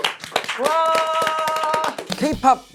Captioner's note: clap~